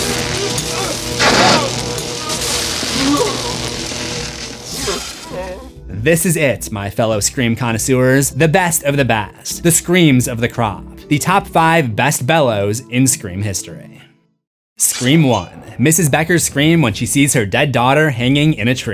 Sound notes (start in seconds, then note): 2.2 screams